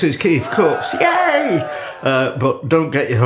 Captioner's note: cheerin